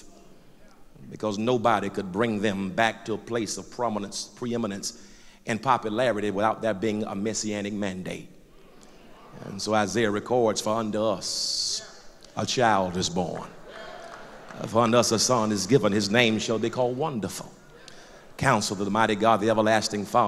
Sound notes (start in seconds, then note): 8.5 loud crowd agreement; 12.8 loud applause